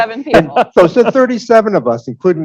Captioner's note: laughs